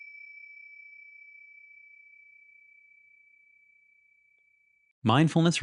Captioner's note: ding